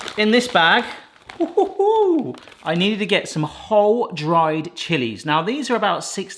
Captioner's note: chuckles